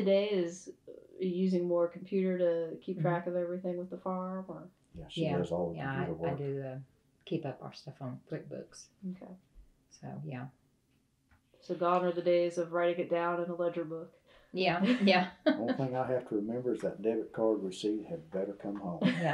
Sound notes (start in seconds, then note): 14.8 laughs